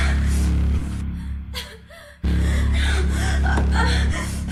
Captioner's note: Crystal continues to breathe heavily